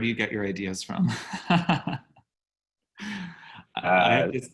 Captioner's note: laughs